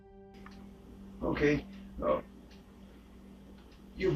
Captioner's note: on phone